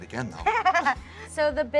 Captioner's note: laughing